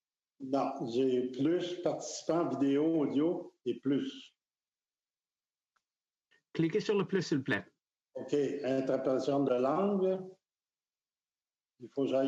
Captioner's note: speaking French